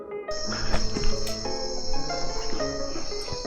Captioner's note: snap